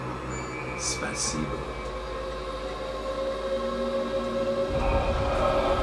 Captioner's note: speaking in foreign language